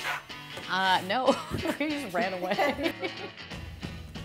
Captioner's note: laughs